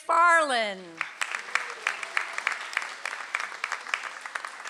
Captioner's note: audience applauds